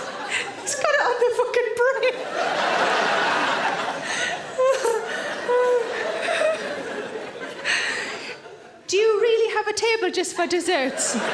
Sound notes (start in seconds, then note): 4.8 laughs